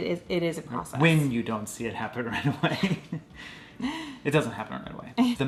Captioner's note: laughing